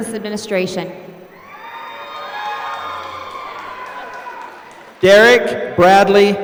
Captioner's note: applause